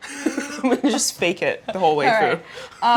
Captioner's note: laughing